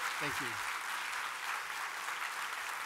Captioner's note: applause